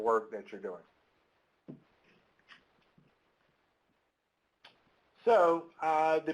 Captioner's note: silence